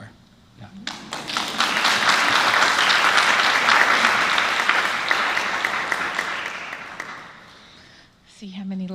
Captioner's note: applause